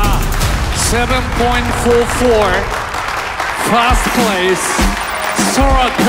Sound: crowd applauding

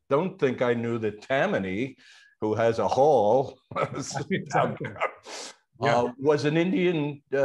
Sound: laughs

